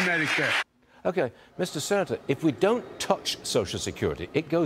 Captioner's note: applause